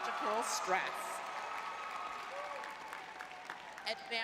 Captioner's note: crowd cheering